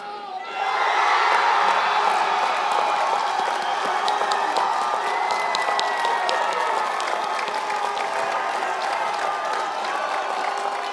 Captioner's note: applause